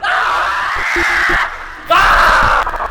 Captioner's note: Greg screaming; static flipping